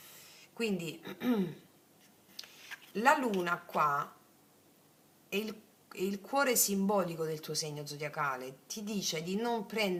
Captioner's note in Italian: schiarire la voce